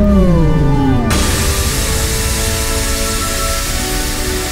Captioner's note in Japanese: ドラゴンの雄たけび; 噴出音